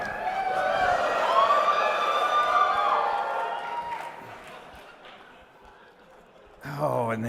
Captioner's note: cheering